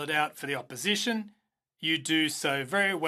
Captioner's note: speaking in French